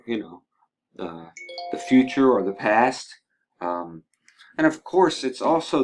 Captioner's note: cell phone rings